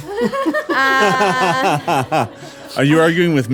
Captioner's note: laughing